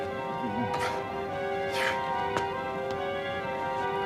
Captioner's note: panting